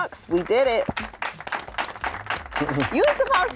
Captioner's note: applause